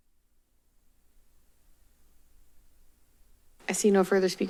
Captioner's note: silence